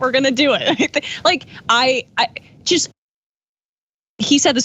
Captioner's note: laugh